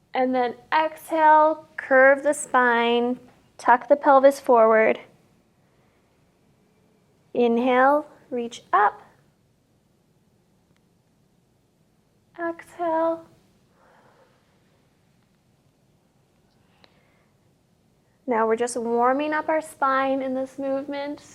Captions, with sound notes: and then exhale, curve the spine, tuck the pelvis forward. Inhale, reach up. Exhale. (exhales) Now, we're just warming up our spine in this movement.